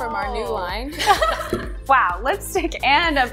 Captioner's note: laughter